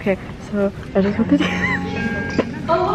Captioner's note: laughing; laughs